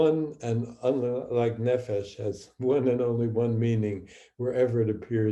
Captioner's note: speaking hebrew